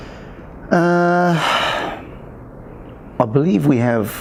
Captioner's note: sighs